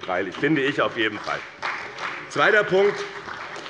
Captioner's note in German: Beifall bei dem BÜNDNIS 90/DIE GRÜNEN und der CDU